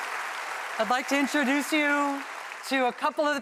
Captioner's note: applause